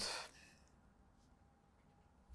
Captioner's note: pauses 12 seconds